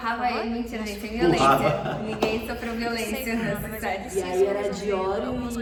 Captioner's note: laughs